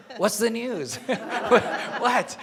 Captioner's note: laughing